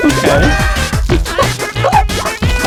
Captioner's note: laughs to myself